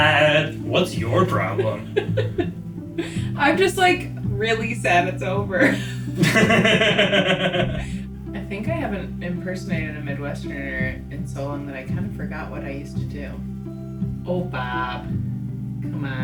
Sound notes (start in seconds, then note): 5.5 laughing